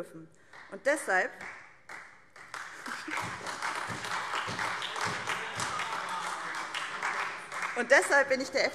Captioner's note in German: Beifall SPD und Freie Demokraten